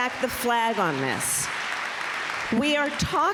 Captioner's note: applause